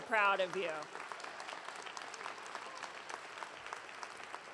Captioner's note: audience cheering